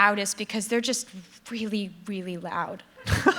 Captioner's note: laughter